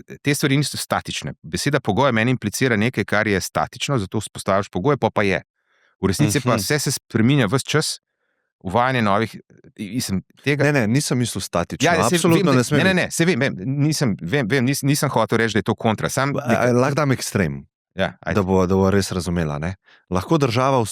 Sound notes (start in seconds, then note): 6.2 coughing; 11.8 coughing